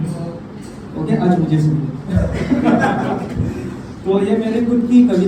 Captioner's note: laughs